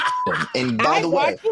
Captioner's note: laughing